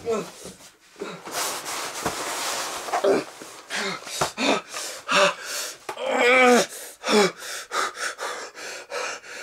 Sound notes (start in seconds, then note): 1.2 scared loud breathing; 5.9 grunt of pain; 6.7 calming fast breaths